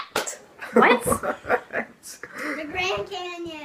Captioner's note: laughter